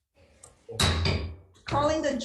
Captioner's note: gavel banging